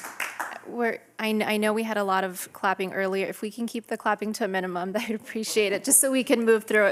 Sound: applause

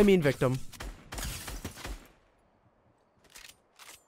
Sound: gunfire

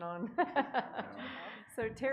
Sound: laughing

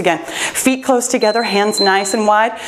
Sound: timer beeps

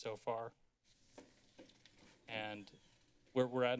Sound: chairs moving

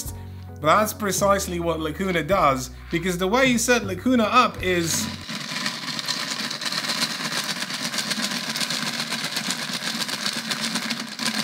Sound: shaking noises

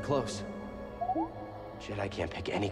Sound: inquisitive beep

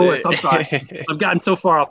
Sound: man laughs

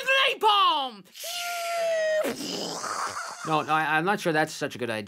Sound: bombing sound

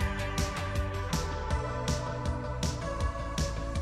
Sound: none

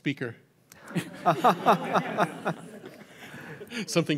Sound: laughter

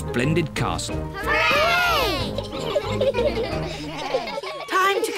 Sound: giggle

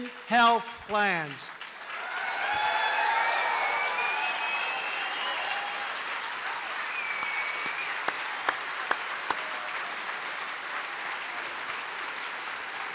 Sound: applause

